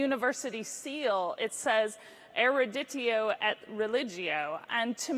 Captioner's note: foreign language